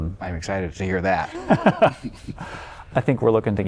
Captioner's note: laughter